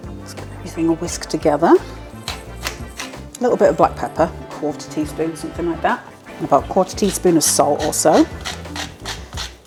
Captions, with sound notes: Give this a whisk together [PEPPER MILL GRINDING] A little bit of black pepper, a quarter teaspoon something like that About quarter teaspoon of salt or so [SALT MILL GRINDING]